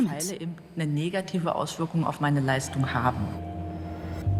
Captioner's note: speaks German